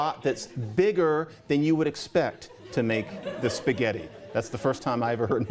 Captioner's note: laughter